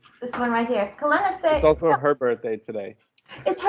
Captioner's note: laughter